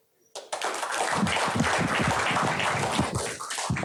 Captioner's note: applause